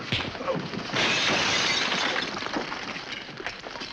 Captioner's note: glass breaking